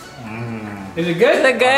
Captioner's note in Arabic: يتمتم